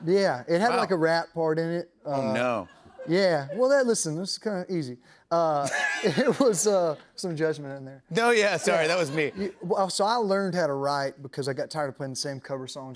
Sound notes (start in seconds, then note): 5.6 laughter; 8.6 laughter